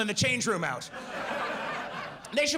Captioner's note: audience laughs